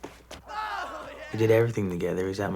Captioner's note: cheering